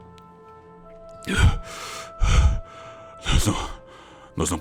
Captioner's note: panting